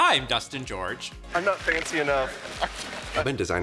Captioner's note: chuckles